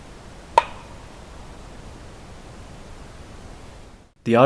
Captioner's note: knocking